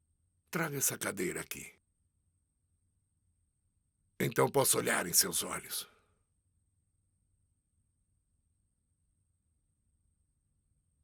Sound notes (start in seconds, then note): none